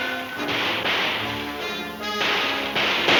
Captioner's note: gun firing; ricocheting; distant guns firing; gun firing